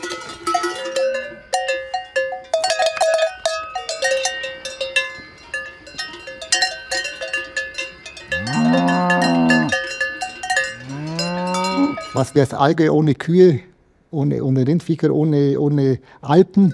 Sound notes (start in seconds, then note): 8.3 repeated deep mooing